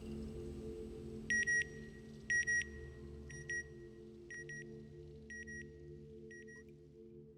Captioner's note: beeping